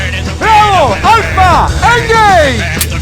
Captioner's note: rock music; yelling; rock music; weapons loading